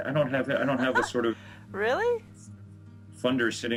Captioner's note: laughing